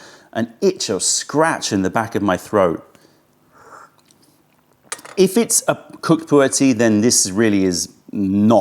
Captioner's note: sips tea